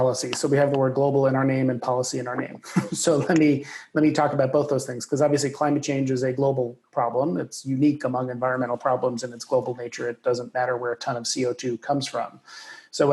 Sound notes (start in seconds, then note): 2.5 laughs